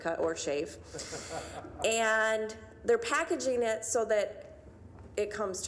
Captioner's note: laughing